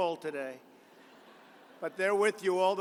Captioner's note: laughter